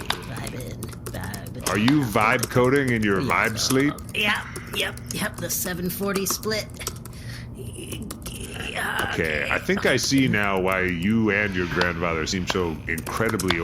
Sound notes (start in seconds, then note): 0.0 typing; 6.9 sounds of effort, more typing